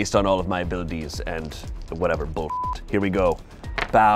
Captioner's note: beep